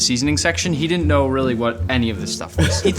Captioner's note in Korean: 웃음